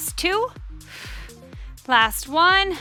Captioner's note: oxygen breathing